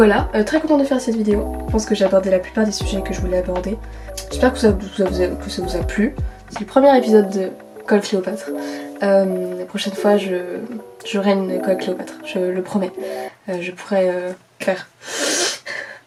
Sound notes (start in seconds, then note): 15.1 sniiif